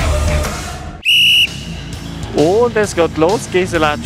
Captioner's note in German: Pfiff